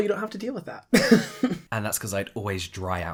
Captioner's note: laughs